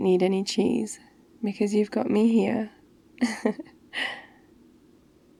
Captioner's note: laughs